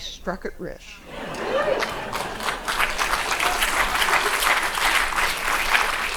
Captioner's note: people laughing and clapping